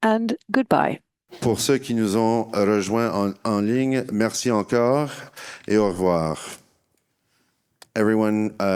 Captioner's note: speaking in French